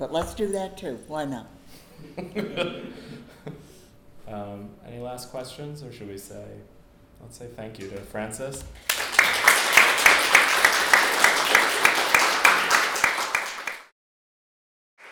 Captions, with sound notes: But let's do that too, why not? (audience laughing) - Any last questions or should we say? Let's say thank you to Frances. (audience applauds)